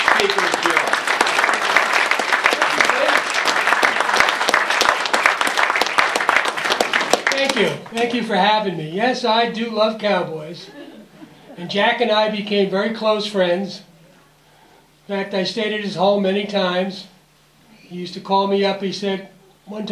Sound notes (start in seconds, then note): 0.0 applause